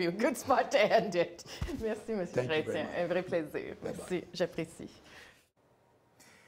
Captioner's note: laughter